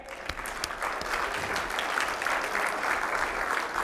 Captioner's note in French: applaudissements